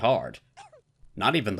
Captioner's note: coughs